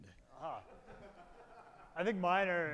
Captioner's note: audience laughing